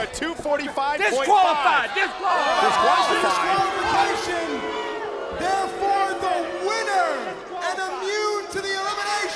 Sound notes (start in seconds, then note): 6.1 crowd chatter